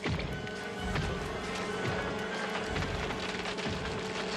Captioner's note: large footsteps